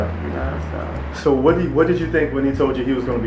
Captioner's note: voiceover